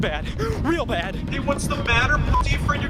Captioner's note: beep